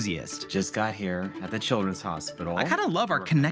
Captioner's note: on phone